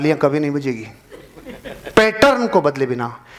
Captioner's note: laughing